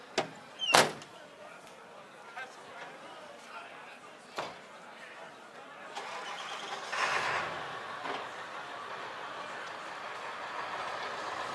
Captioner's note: crowd chatter